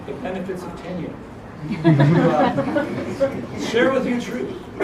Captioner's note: laugh